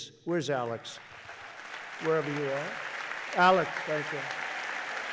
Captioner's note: applause